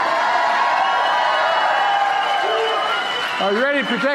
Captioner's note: applause